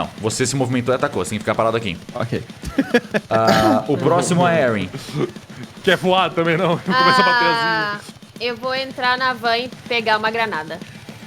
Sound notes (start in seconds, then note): 2.6 laughs